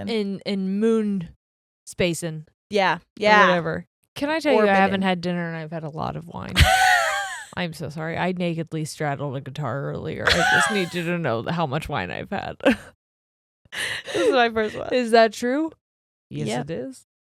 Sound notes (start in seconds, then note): 6.5 laughing; 10.2 laughing; 10.3 chuckles